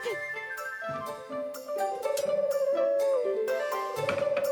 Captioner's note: pigeon cooing